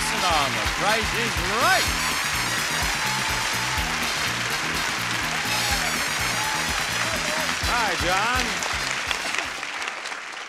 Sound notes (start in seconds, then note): 2.0 audience applauds; 2.0 happy music